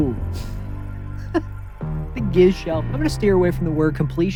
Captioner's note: laughs